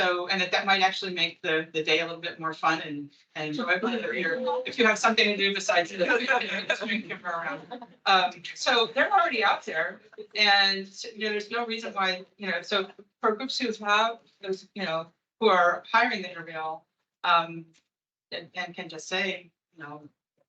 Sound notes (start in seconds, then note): 3.6 attendees chattering; 6.0 attendees laughing